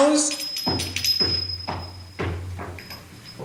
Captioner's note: bells tinkling